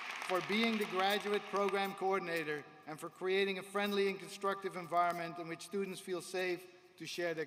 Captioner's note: applause